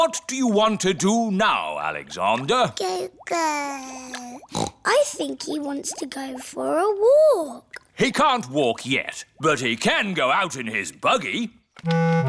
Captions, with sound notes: What do you want to do now, Alexander? (BABBLES) (SNORTS) I think he wants to go for a walk. He can't walk yet, but he can go out in his buggy.